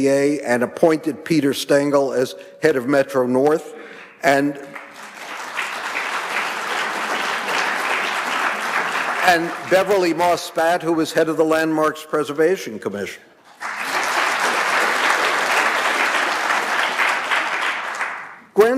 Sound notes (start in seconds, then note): 4.6 audience applauding; 13.4 audience applauding